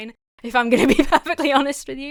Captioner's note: laughs